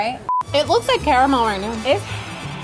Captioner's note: beep